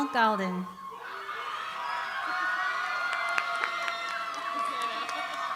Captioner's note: cheering, applause